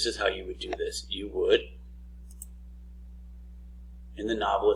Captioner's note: mouse clicks